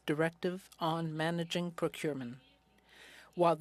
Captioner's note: speaking French